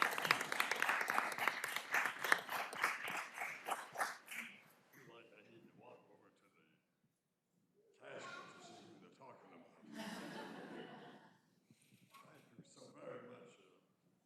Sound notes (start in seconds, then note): 2.0 applause